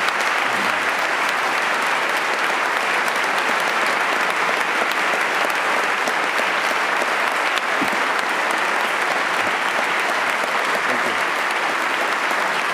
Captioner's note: applause